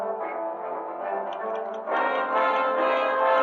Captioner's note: ticking